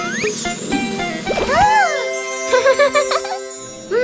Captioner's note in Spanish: Risas